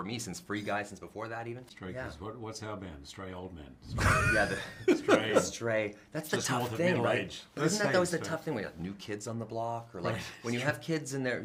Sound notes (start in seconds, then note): 3.9 laughter